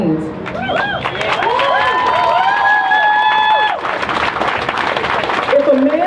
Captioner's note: crowd cheers